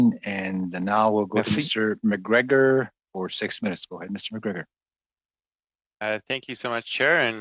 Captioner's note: speaking French